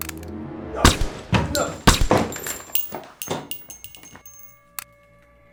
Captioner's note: gun clicks; agents grunting; gunshots banging; gun clicks